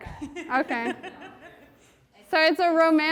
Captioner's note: woman laughing